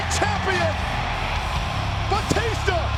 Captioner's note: crowd cheering